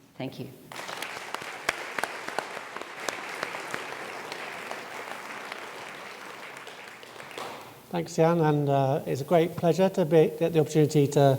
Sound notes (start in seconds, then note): 0.6 audience clapping